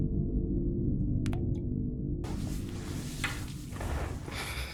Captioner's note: water dripping